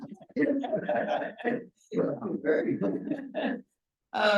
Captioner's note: chuckles; both laughing